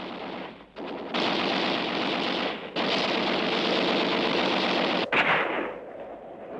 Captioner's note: gunfire